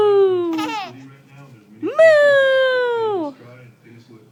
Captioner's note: laughing